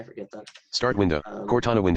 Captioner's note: computer Voice